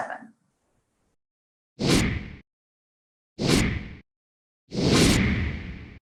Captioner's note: woosh, Woosh